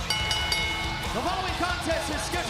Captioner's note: bell ringing